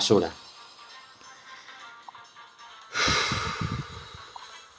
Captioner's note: deep sigh